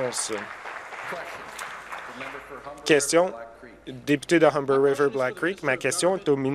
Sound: applause

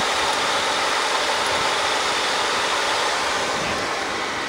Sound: machine rumbling

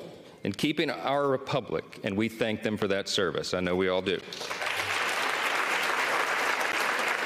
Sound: applause

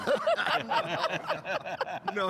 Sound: all laughs

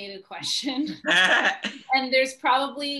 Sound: laughs

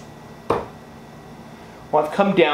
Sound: thuds

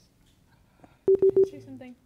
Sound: beep sounds

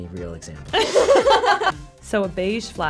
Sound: laughs

